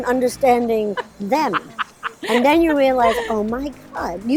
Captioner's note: laughing